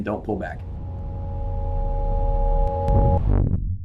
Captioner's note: electronic buzzing